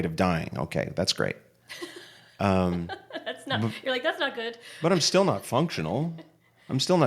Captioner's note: laughter